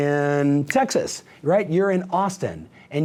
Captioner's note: snaps fingers